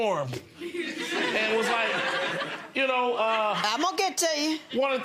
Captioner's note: laughing